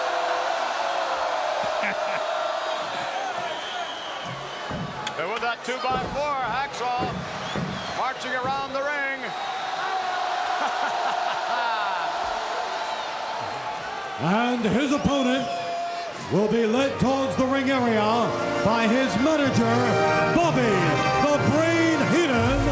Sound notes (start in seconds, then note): 0.0 crowd chants "Hooo"; 11.3 Vince laughs